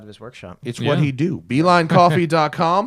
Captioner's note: laughter